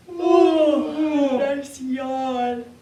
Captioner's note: both yawn